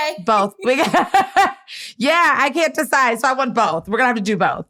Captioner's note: laughs